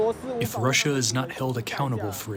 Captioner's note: through translator